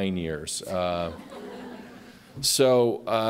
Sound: laughter

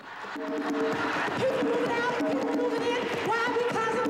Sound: drumming; chanting

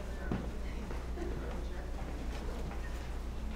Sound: laugh

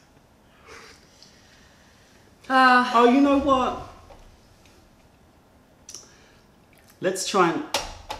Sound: laughter; sips tea

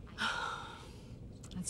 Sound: sighs

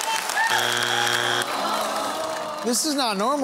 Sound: buzzer sounds

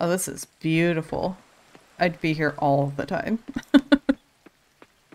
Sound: laughs

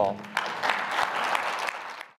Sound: audience applauding

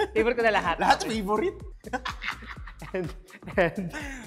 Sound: laugh

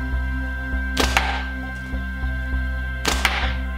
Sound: thwack; thwack

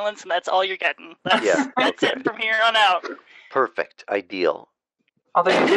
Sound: laughter

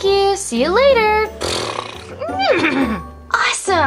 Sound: horse noises

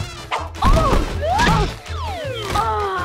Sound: grunting

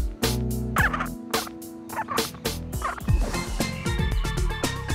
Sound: birds squawking; upbeat music

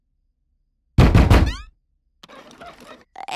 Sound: loud knocking

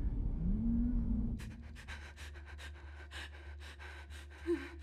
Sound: heavy breathing

